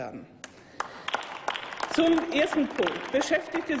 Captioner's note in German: Applaus